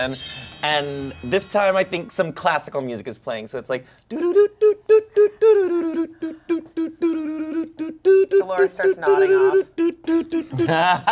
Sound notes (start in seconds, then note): 3.6 vocalizes; 10.3 everyone laughs